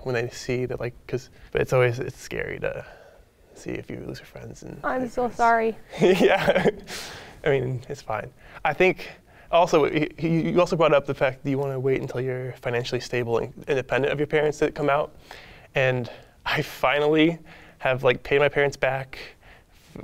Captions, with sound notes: when they see that like 'cause... But it's always, it's scary to see if you lose your friends and- - I'm so sorry. - Yeah, (laughs) I mean, it's fine. I think also, you also brought up the fact that you wanna wait until you're financially stable and independent of your parents to come out. And I finally have like, paid my parents back.